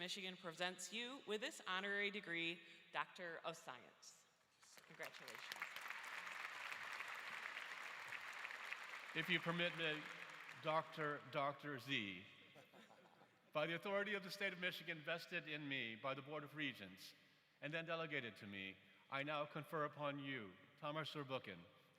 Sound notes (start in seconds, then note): 8.8 applause